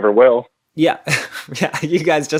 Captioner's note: laughs